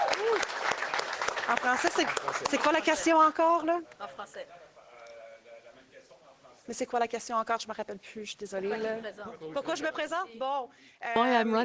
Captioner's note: cheers and applause